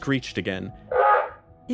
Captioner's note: sqwuack